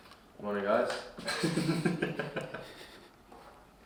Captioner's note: laughs